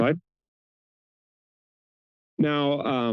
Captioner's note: pause